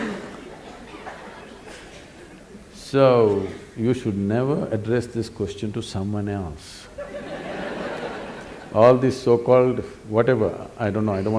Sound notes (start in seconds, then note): 0.0 laughter/Applause; 7.0 laughter; 7.0 笑聲